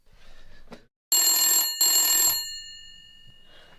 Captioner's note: sound of phone ringing